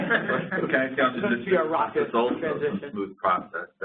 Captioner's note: laughing